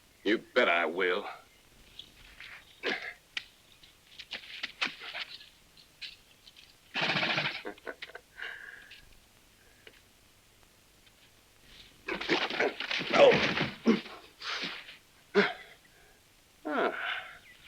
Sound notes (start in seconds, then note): 6.9 Lucky laughs; 7.0 horse snorts